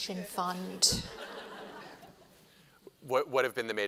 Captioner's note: laughter